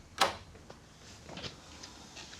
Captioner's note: the door opens